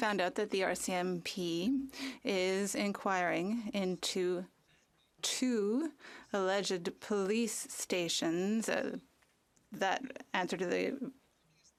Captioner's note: speaking French